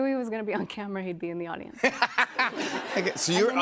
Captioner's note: laughter